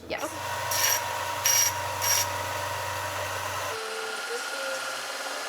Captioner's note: machines whirring and scraping